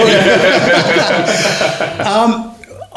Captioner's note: all laughing